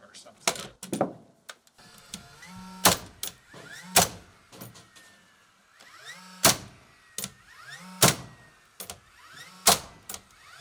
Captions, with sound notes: or something. (nail gun popping)